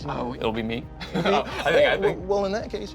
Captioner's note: laughs